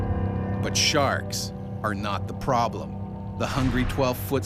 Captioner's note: voiceover